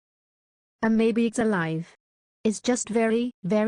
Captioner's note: voiceover